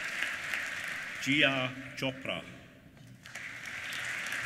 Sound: applause

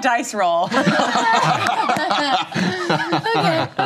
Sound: laughter

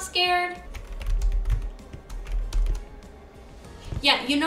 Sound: typing

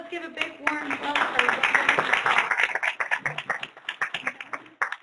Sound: applause

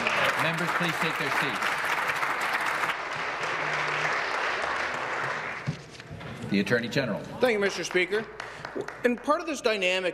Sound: applause

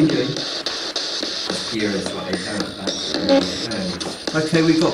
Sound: spirit box buzzing drowns out speaking

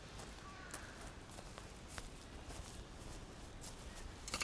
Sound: grass crunches

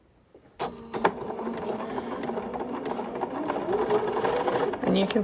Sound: sewing machine whirring

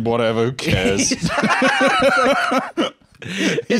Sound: both laughing; laughing

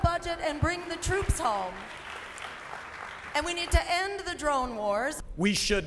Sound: cheering and applause

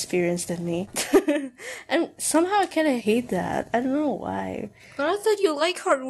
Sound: chuckles

